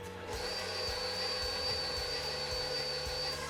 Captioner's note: mixer roaring